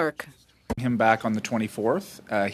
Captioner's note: speaking French